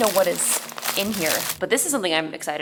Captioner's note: plastic crinkles